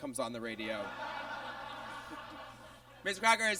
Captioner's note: audience laughs